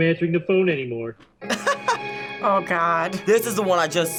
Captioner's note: laughs